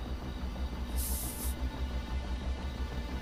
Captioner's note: bottle opens